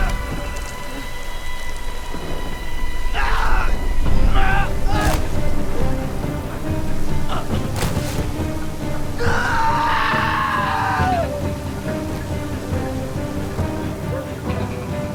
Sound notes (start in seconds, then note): 2.7 exclaims in pain; 9.1 screaming